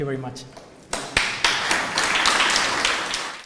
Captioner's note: applause